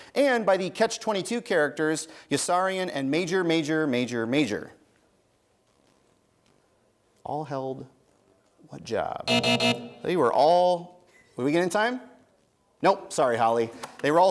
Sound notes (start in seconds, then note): 9.2 buzzing